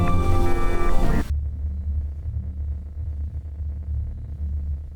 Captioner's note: electronic thrumming